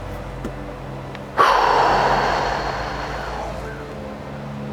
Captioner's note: exhales